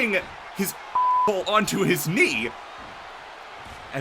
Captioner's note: beep